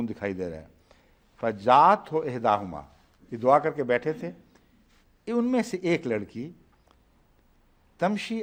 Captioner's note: Arabic